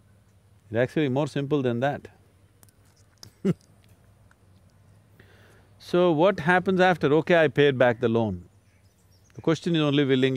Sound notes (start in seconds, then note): 3.2 laughs